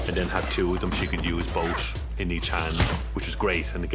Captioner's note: grunting